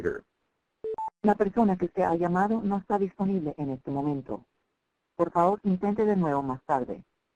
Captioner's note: speaking foreign language